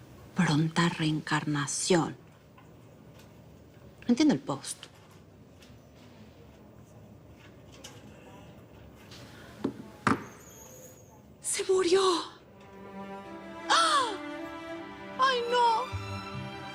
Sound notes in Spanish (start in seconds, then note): 13.7 Grito ahogado